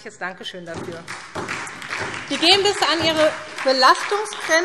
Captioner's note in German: Beifall